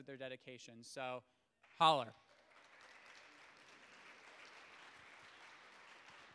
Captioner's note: audience applauds